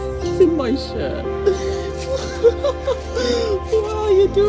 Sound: cries with joy

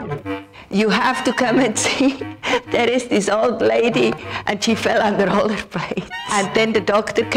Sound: laughs

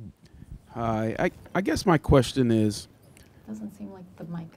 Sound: voiceover

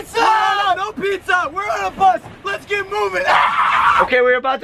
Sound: screaming

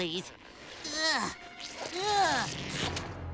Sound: grunting

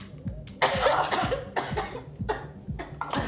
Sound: coughing

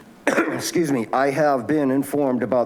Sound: coughs

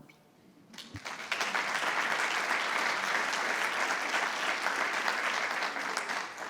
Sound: board and audience applauding

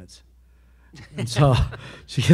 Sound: panelists laugh

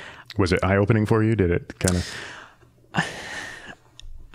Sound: sighing

